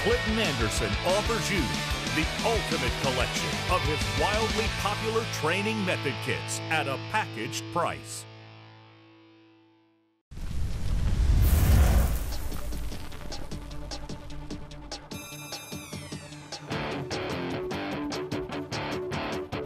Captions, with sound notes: Clinton Anderson offers you the ultimate collection of his wildly popular training method kits at a packaged price. (sizzling) (driven hard rock music)